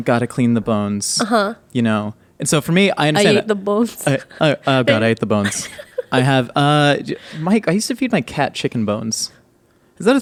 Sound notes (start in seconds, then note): 4.4 laughing